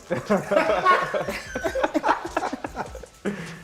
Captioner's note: laughter